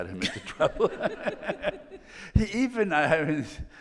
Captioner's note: all laughing